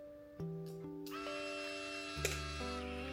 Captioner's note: click